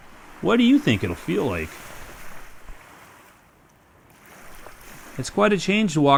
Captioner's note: waves